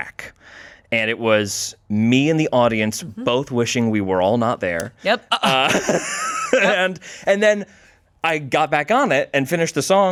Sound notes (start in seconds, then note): 5.4 everyone laughs